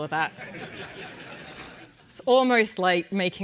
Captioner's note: laugh